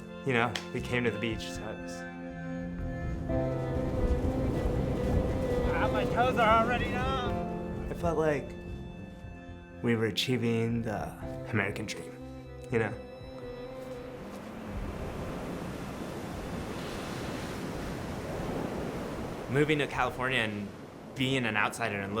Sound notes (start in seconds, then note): 3.1 wind gusting; 3.3 poignant music; 13.8 ocean crashing